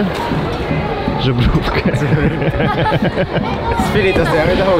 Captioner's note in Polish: śmiech